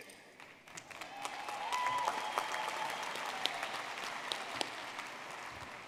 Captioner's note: audience clapping and cheering